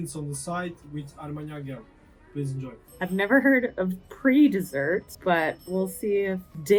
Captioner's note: lots of bell dings heard